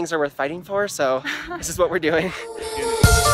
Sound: laughing; upbeat music

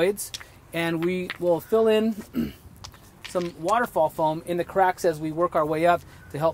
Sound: cough

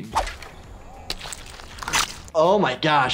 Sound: squelching

